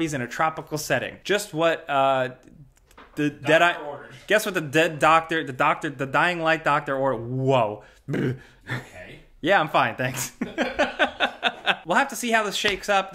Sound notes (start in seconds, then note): 8.1 blabbers and chuckles; 10.1 laughs; 10.2 friend laughs